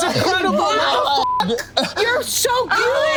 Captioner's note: beep